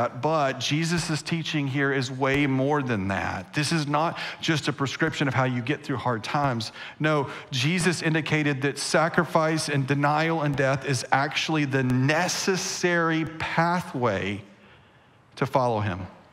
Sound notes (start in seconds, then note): none